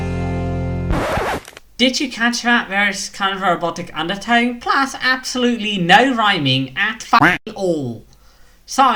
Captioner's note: quack